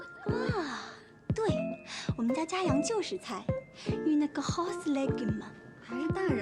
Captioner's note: French